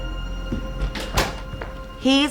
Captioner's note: door closes